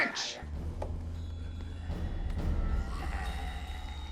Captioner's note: snarls